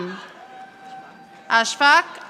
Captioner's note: audience applauding